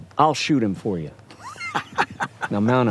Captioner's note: laughs